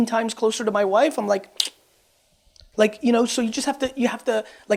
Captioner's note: clicks tongue